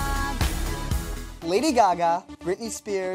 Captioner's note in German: englisch